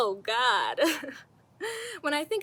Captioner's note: chuckles